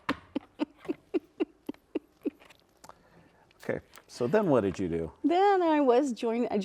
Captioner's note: laughing